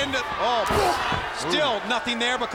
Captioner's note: wrestler grunts